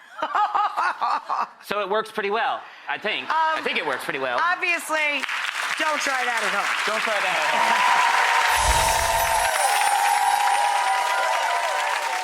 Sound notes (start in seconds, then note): 0.2 Rachael laughs; 7.5 audience applause